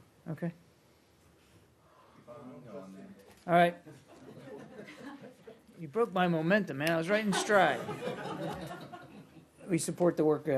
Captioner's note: laughter